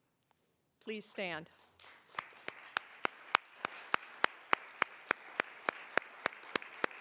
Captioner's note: applause